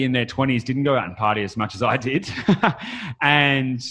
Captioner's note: laughs